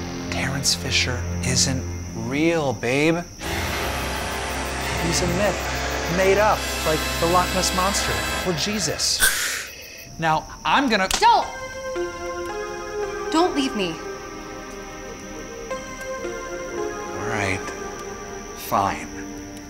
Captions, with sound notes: Terrance Fisher isn't real, babe. (ominous symphonic music) He's a myth, made up, like the Loch Ness monster or Jesus. (creature hissing) Now, I'm gonna- - Don't! Don't leave me. (light music) - All right, fine.